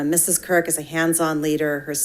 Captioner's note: none